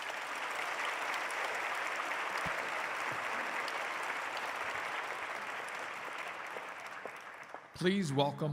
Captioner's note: applause